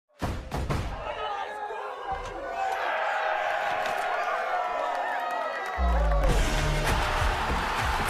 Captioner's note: cheering from a room; crowd cheering